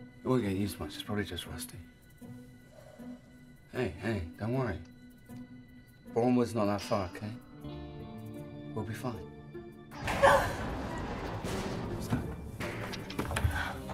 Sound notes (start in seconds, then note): 9.9 Eloise gasping; 10.0 loud crash